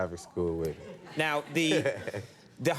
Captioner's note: laughs